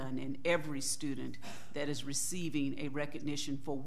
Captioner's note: none